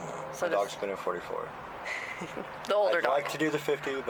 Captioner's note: laughter